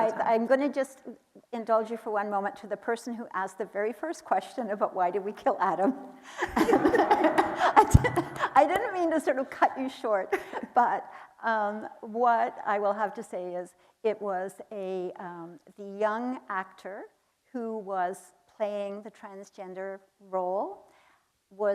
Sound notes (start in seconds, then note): 6.3 laughing; 6.5 audience laughing